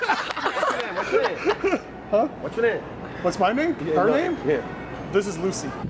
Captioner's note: laughing